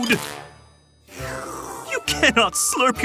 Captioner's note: Melody slurping